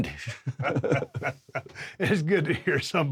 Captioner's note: Drew and Steve chuckle